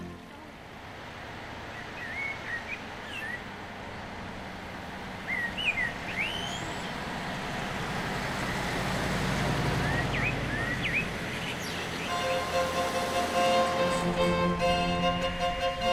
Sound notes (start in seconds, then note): 7.9 car engine revving; 12.1 lively classical music